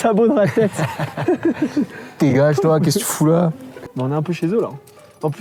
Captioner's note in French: rire